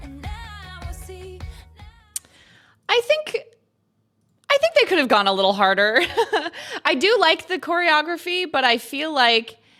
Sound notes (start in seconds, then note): 6.3 laughs